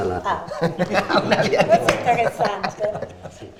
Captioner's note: laughter